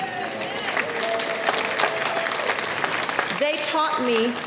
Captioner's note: clapping